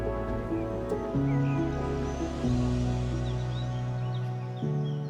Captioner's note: birds chirping